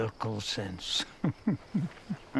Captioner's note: chuckles